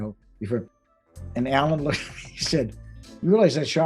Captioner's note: laughing